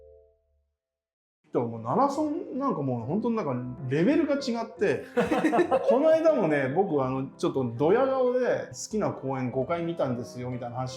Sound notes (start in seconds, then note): 5.0 laughing